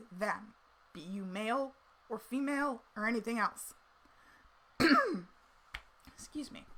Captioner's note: coughs